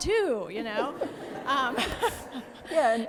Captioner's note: audience laughing